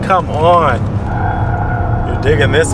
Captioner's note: tires squealing